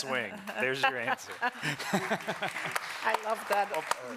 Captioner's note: applause